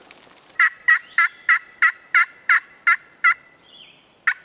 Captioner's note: turkey calling